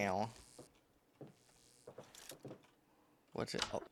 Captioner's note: footsteps